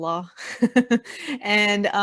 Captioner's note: laughing